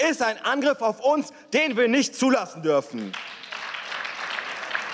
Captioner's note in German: Beifall